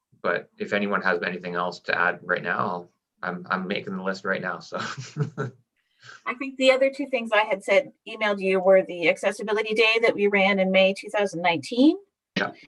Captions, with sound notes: But if anyone has anything else to add right now, I'm making the list right now, so. (laughing) - I think the other two things I had said emailed you were the accessibility day that we ran in May, 2019.